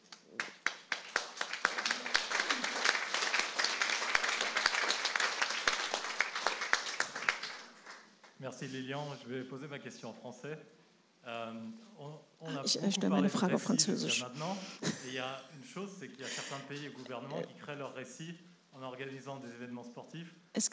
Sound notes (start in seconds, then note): 1.5 applause